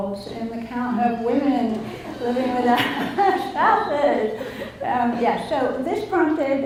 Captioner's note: laughs